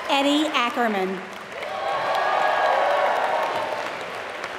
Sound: applause

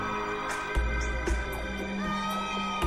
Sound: mrs. gaye wailing

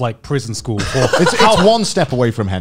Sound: laughs

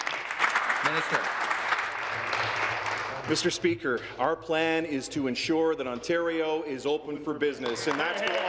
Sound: applause

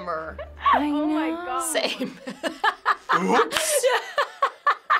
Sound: laughs

